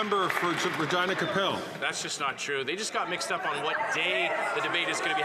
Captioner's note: applause